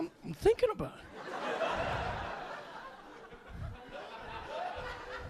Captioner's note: audience laughing